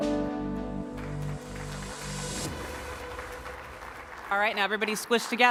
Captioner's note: audience applauding